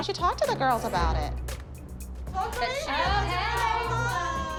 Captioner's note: excited chatter